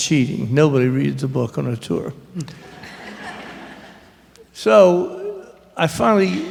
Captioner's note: laughter